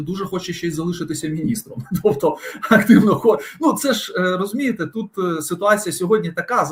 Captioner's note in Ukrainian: сміх